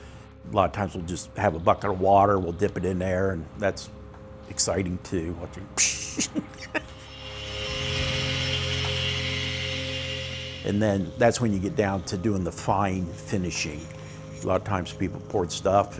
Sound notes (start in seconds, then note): 5.8 steam hiss; 6.1 laughter